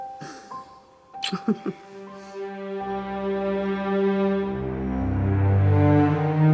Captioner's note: Freddie Laughs; suspenseful music